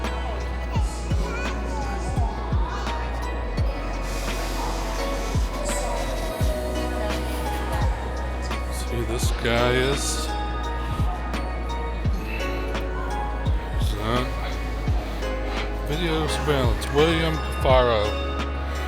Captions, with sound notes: (laughs) (children chattering) Let's see who this guy is.